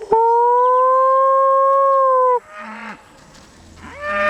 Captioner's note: howling; cattle calling